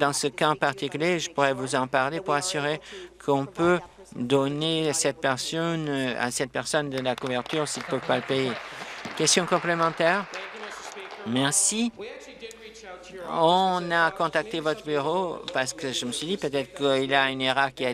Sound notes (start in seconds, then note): 10.4 applause